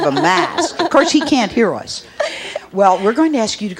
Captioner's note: laughs